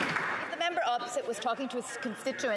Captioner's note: some Applause